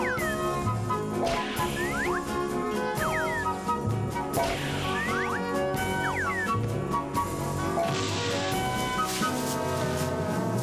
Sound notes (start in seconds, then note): 8.3 rustling